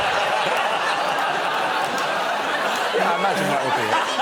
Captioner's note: laughter